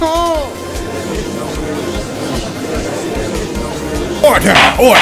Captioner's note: gallery chattering